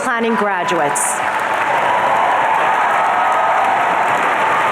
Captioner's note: audience cheering